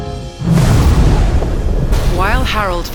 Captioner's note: thunder crashes